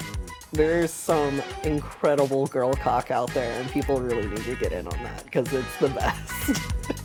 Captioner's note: laughs